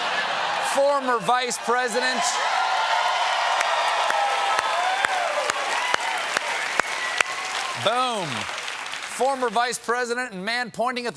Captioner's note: applause